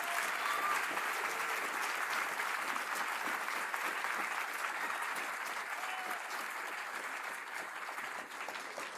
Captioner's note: applause